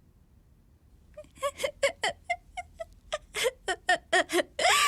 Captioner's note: laughing manically